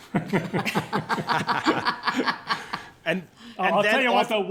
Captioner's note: laughter